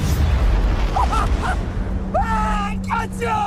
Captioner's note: maniacal laughter of pride